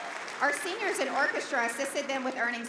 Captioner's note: applause